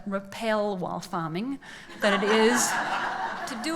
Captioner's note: laughs